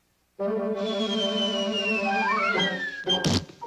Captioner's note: steam whistling